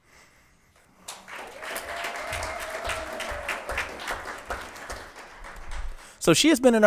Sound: attendees cheering and applauding

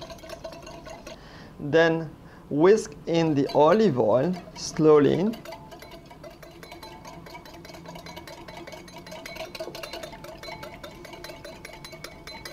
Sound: whisking sound; whisking sound

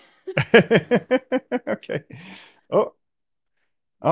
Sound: chuckling

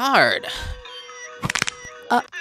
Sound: bones Cracking

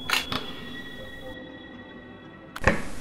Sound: camera Clicking Sound

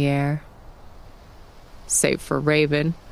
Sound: leaves rattling

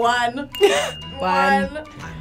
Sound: bell dinging

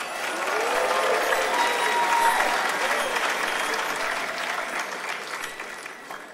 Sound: claps

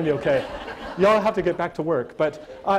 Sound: audience laughter

